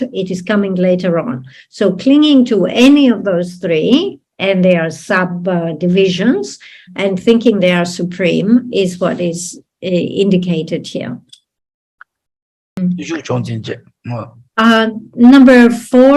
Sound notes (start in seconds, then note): 13.5 speaking in foreign language